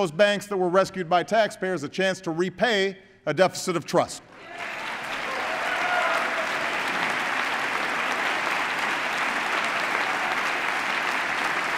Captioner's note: applause